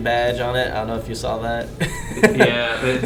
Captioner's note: laughing